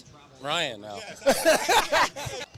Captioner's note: laughter